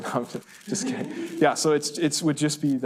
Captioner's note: laughs; students laugh